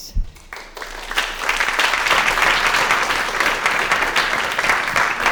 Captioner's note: applause